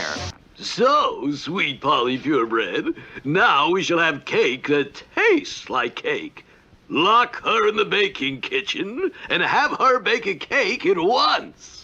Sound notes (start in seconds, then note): none